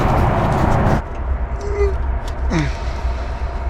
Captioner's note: grunts